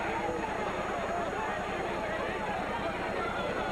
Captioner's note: crowd cheering